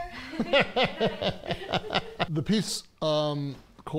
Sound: all laughing

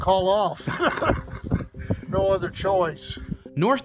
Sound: laughs

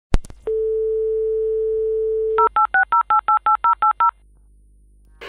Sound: phone dialing; modem connecting; television static

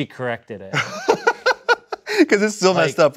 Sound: laughing

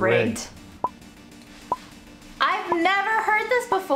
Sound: timer ticking

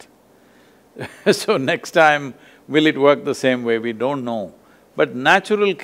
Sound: laughs

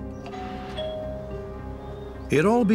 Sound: doorbell rings

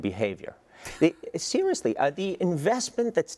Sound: laugh

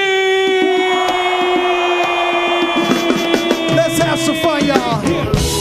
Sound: audience screaming

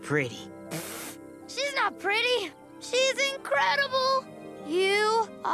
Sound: rasps

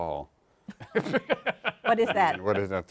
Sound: laughter

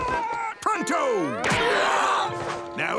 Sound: screaming

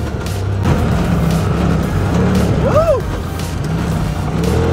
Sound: engine revving

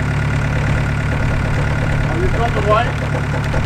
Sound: heavy Machine Engine

